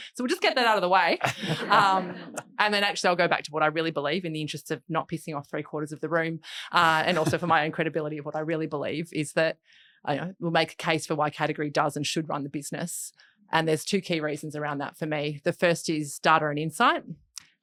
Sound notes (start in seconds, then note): 1.2 audience laughing